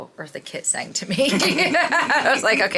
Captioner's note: both laughing